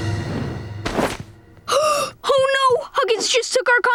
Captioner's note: gasping